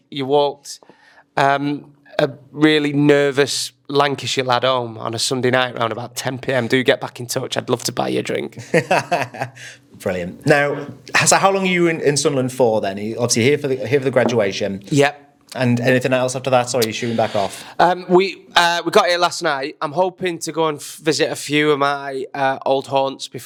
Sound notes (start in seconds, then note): 8.6 chuckles